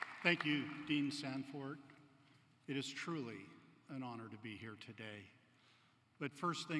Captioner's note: applause